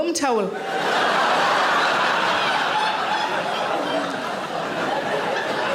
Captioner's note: audience laughing